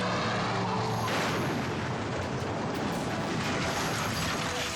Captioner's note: cars crashing